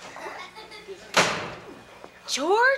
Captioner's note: door slamming